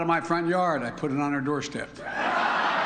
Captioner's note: laughter